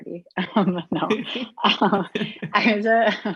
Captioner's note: laughing